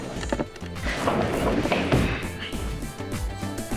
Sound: cupboard moving

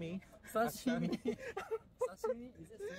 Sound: laugh

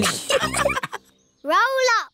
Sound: all laughing

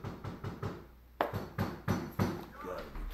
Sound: knock, knock, knock, knock; knock, knock, knock, knock, knock

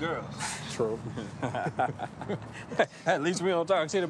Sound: laughing

